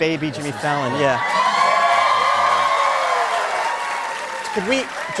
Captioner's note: cheers and applause